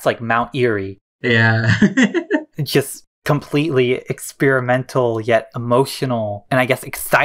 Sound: laughs

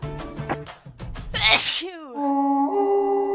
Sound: sneeze

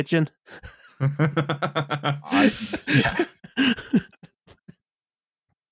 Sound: laughter

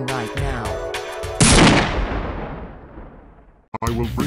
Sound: bang

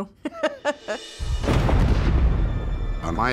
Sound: explosion

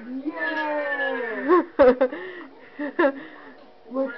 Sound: laughing

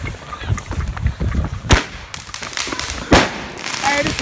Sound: firework crackling

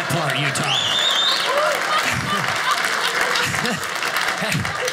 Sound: audience laughing

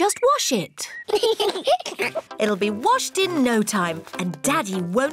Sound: both giggle

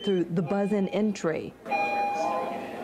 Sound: / : nat sound...bell

